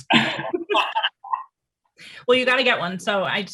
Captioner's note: laughing